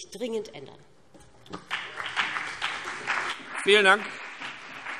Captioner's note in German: Beifall BÜNDNIS 90/DIE GRÜNEN und vereinzelt CDU